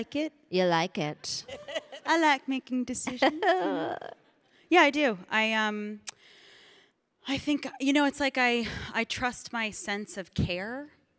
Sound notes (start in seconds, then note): 1.4 Michelle laughing; 3.0 Samantha chuckling